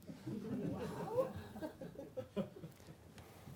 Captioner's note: laughter